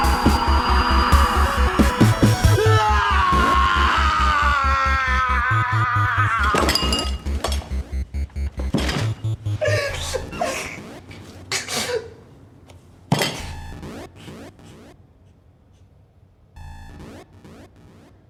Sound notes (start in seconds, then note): 7.7 sobbing